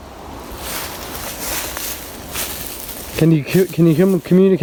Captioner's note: leaves rustling